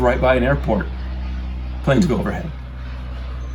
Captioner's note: plane engine roars